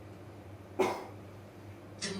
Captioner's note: audience member coughs